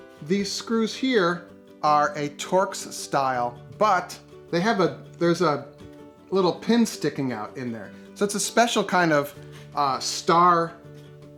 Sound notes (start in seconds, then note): none